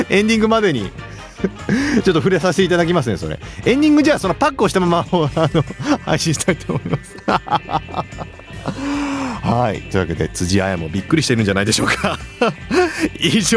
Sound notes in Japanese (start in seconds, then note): 8.9 笑い; 11.6 笑い